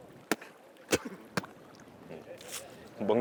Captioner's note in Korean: 구역질; 뱉는 소리